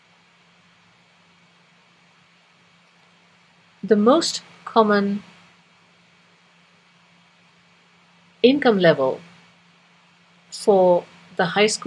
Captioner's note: pause